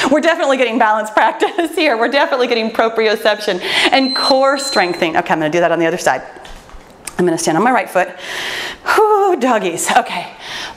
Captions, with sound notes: We're definitely getting balance practice here. We're definitely getting proprioception and core strengthening. (timer beeps) Okay, I'm gonna do that on the other side. I'm gonna stand on my right foot, woo doggies, okay.